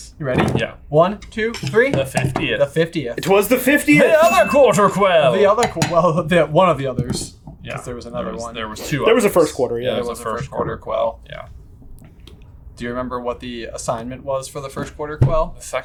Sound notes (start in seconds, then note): 4.0 bell dinging